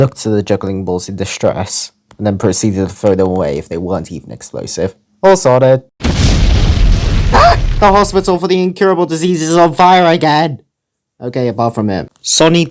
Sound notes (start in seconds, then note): 6.0 explosion